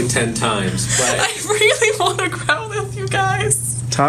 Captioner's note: laughing